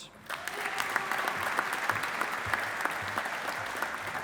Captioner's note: audience applauding